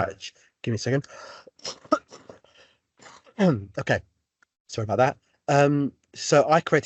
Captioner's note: sneezes